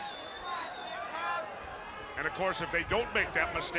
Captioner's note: crowd chatter